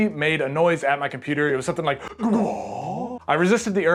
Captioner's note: alien noises